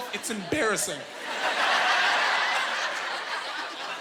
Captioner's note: laughing